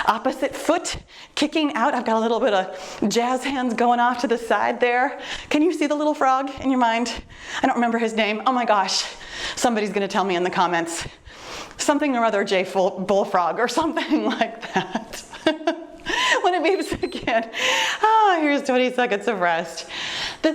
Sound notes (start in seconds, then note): 14.2 chuckles; 16.6 timer beeps